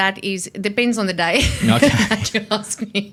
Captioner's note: laughs